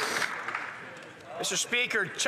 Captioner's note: some Applause